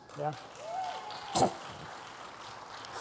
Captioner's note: applause